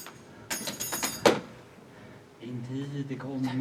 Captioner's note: rattles the silverware